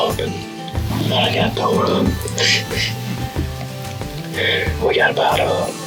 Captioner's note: giggles